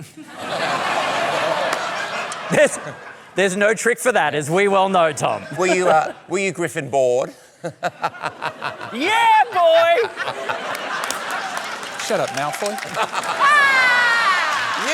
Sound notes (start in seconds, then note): 0.0 laughter; 7.6 chuckles